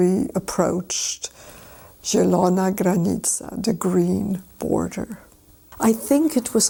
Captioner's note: polish words